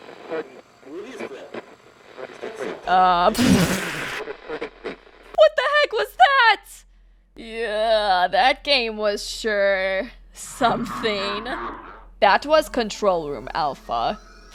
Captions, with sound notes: Uh- *spits* What the heck was that?! Yeah, that game was sure... ...something. That was “Control Room Alpha”.